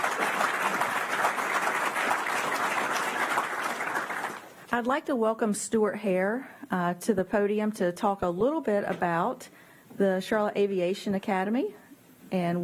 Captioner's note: applause